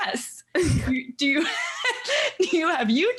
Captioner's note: laughing